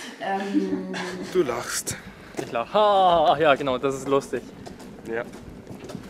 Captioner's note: laughs